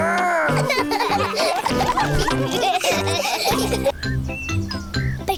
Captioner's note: all laughing